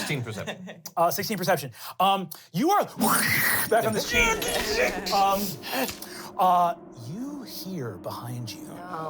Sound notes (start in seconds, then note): 3.8 whooshes; 4.6 grunting; 8.5 sputters